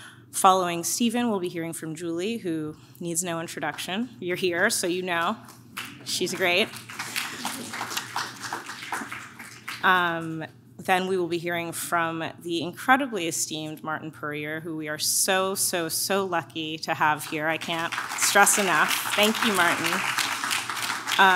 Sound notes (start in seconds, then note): 5.7 audience claps; 17.2 audience claps